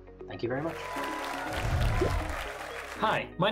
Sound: applause

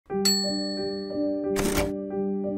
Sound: bell dings; gentle music

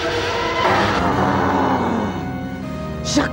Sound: grunts

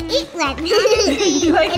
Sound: giggle

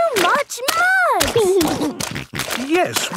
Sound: snorting

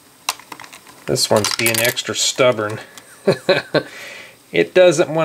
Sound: laughs

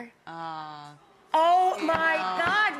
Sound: audience awws

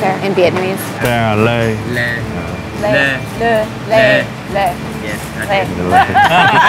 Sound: all speaking in Vietnamese; all laughing

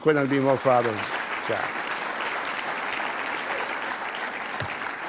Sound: audience clapping

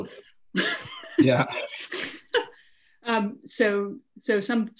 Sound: both laughs loud

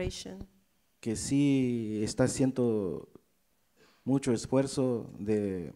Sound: speaks in foreign language

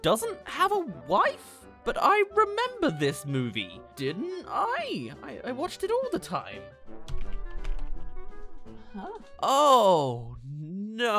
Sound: typing on keyboard

